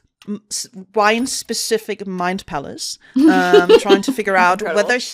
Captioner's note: laughter